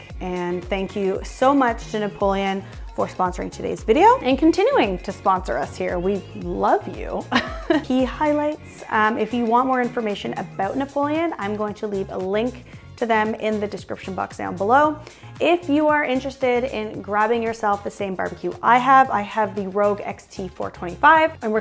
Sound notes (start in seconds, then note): 7.3 laughs